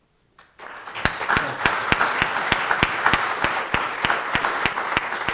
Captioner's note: audience applauding